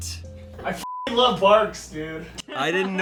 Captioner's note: beep